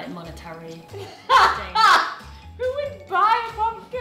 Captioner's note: laughing